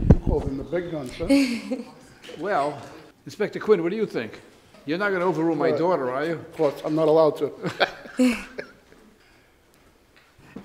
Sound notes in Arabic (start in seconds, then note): 1.4 ضحكات مكتومة من هالي; 7.6 يضحك